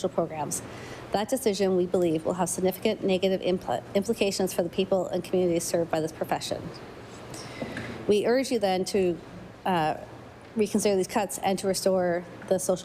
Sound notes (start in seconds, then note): none